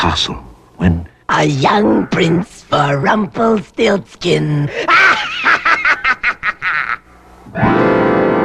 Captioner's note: cackles